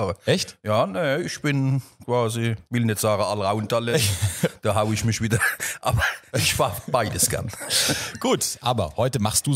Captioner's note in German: lacht